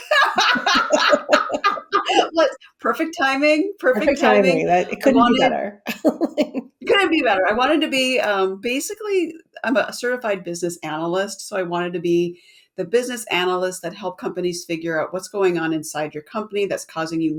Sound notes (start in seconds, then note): 0.0 laugh; 5.9 laughs